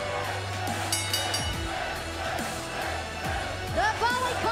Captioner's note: bell ringing